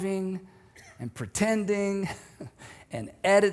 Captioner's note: chuckles